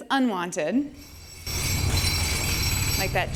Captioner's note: jackhammer hammering